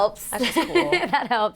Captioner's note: laughing